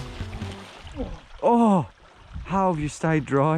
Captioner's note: both groaning